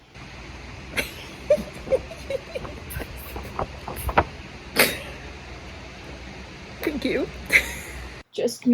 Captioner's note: giggling like a loser